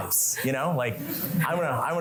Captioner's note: laughter